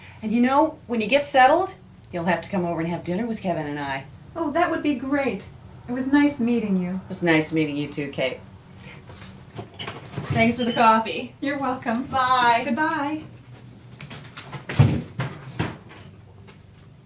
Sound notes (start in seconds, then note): none